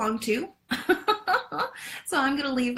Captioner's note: laughs